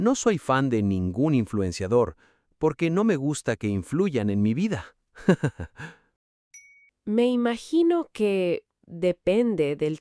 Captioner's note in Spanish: risas